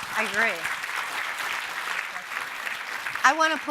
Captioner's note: audience and panel applauding